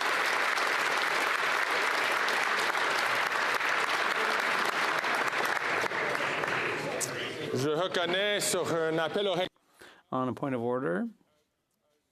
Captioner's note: applause